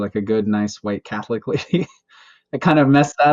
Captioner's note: laughs